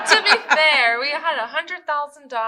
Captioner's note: laughter